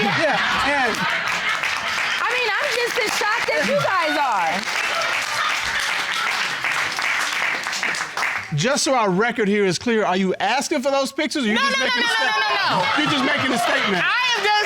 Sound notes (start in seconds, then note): 0.0 audience laughing; 4.5 audience cheering, applauding